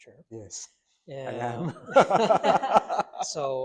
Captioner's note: doctors laughing